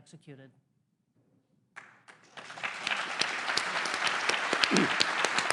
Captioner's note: applause